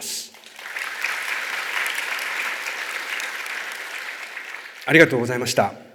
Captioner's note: clapping sound